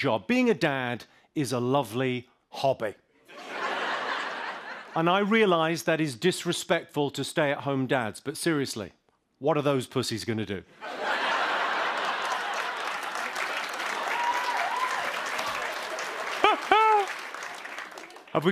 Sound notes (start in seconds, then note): 3.3 laughter; 10.8 laughter; 13.6 cheers and applause; 15.2 laughs